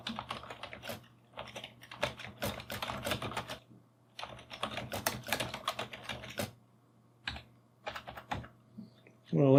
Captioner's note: keyboard clicking